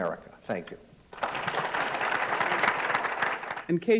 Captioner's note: applause